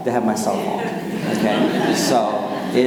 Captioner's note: audience laughing